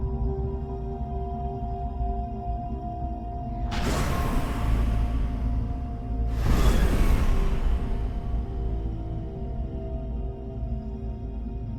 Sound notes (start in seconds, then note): 3.6 engines blasting; 9.0 ominous music